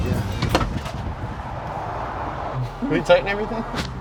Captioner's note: clunking